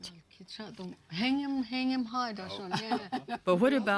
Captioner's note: speaking Navajo